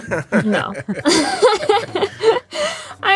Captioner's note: laughter